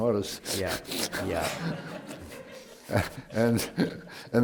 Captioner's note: laughter